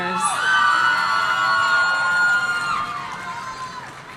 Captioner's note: audience cheering